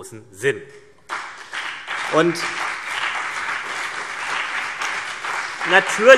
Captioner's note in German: Beifall CDU und BÜNDNIS 90/DIE GRÜNEN